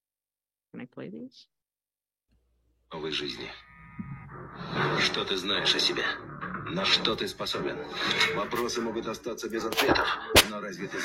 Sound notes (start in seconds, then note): 3.2 solider speaking in Russian; 4.9 dramatic music; 5.7 solider speaking in Russian